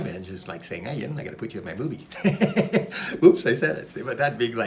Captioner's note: laughs